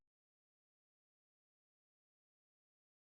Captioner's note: none